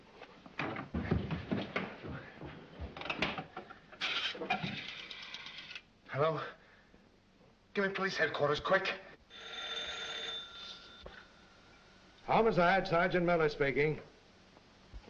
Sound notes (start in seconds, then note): 9.2 phone rings